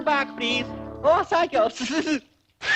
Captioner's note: laughter